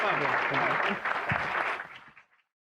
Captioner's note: applause